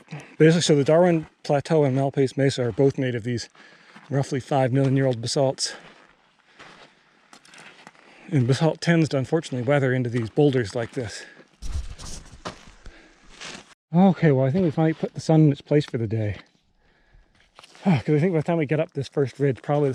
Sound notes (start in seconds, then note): 6.1 footsteps thumping; 11.6 footsteps thumping